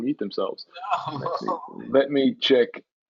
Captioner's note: laughs